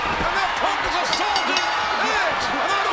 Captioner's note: bell rings